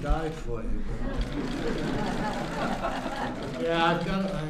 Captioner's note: laughter